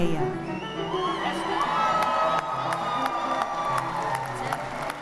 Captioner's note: audience applauding